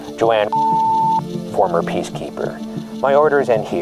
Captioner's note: button clicks; beep